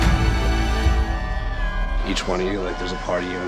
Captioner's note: cheering